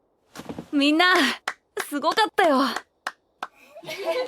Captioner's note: claps